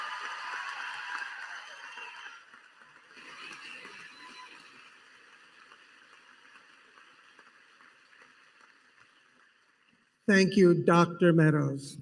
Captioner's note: applause